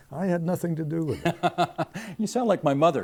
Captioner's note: laughing